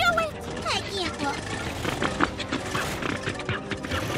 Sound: truck sputters, rumbles

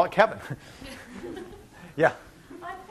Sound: laughing

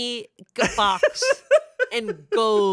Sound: laughs

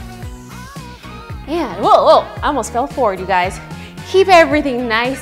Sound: exclaims

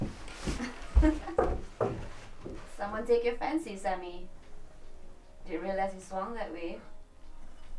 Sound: Nikki laughs

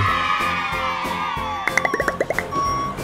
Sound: cheers

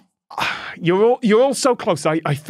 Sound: sigh

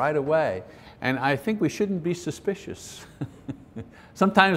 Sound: chuckles

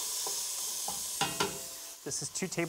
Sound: sizzling

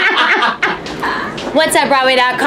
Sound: laughs

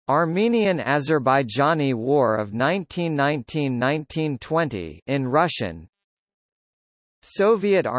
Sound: in Russian

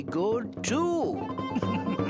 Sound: chuckles

